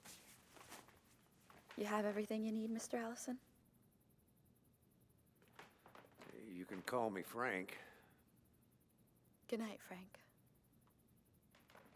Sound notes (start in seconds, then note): none